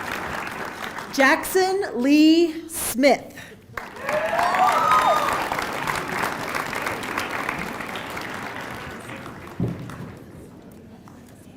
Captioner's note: applause